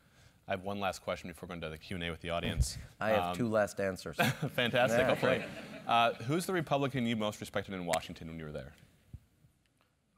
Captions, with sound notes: >> I have one last question before going to the Q and A with the audience. >> I have two last answers. >> [LAUGH] Fantastic, hopefully. Who is the republican you most respected in Washington when you were there?